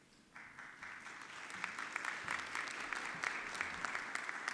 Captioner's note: audience clapping